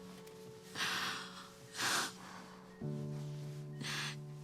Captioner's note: Cassie crying